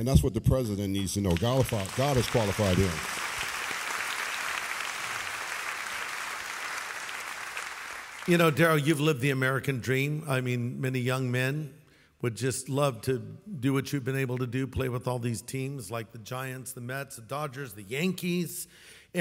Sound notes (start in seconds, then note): 3.2 audience applauds